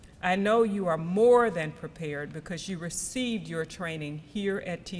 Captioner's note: none